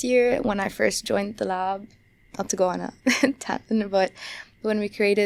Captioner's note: chuckles